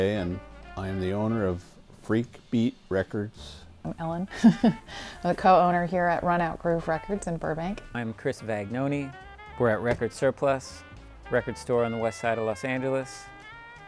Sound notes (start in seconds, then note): 3.9 laughs